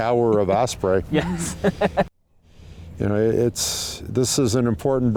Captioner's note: laughs